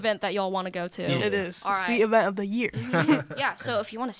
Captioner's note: laughter